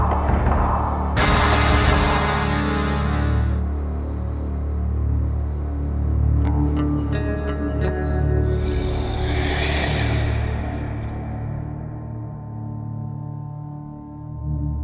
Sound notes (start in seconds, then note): 8.6 meta growls